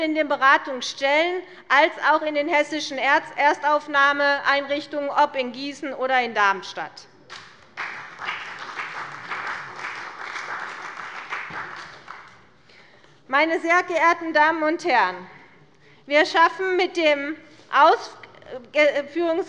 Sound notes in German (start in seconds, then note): 7.3 Beifall bei der CDU und dem BÜNDNIS 90/DIE GRÜNEN